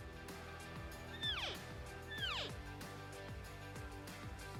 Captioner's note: elk call